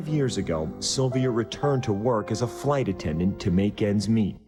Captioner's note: voiceover